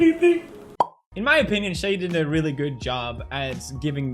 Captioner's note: pop